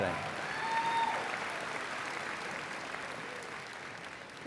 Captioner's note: applause